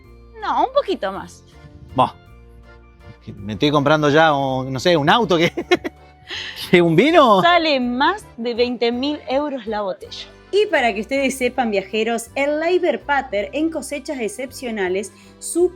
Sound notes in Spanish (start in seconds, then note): 5.4 risas